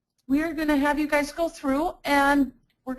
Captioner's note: voiceover